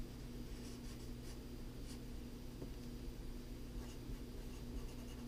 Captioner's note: pen writing on paper